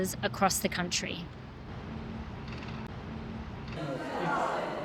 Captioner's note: old surveillance machine sounds; people talking